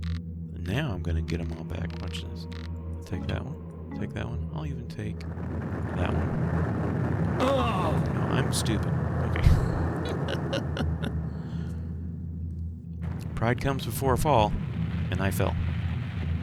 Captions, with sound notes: Now I'm gonna get them all back. Watch this. Take that one... take that one... I'll even take that one. I'm stupid. Okay. [laughs] Pride comes before fall. And I fell.